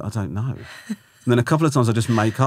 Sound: laughing

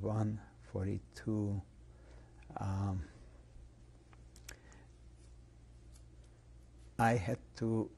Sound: pauses for 6 seconds

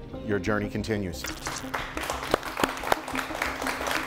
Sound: clapping

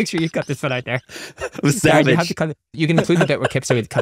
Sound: chuckles

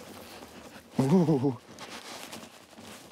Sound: shivers

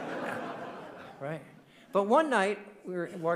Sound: audience laughing

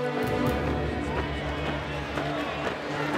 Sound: babble of voices

